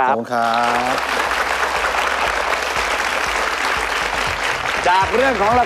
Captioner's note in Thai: เสียงปรบมือ